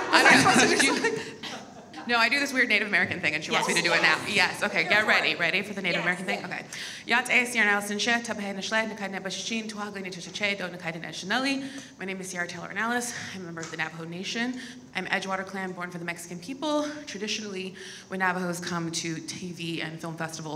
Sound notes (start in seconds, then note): 8.5 speaks in Navajo